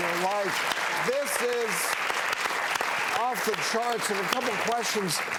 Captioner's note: applauding